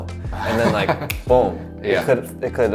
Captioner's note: laughing